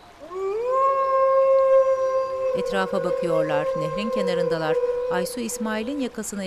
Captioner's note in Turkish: Kurt uluma sesi